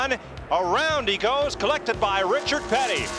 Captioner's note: revving